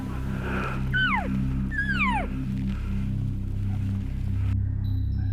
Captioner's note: calling sounds